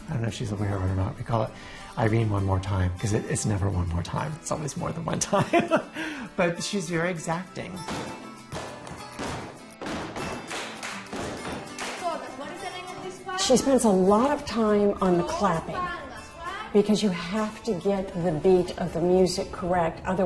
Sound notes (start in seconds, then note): 7.9 dancers tapping; 8.2 dancers clapping